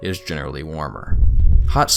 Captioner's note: fire sounds